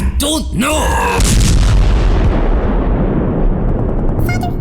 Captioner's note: bonechill explodes